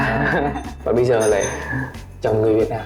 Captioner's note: laughing